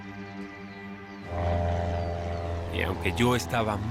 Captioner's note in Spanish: Ruido de la avioneta